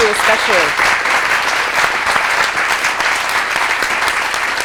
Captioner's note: applause